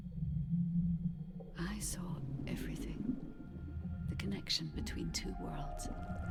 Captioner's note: ghostly voice